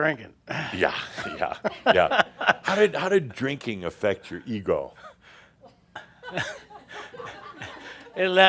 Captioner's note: a few chuckles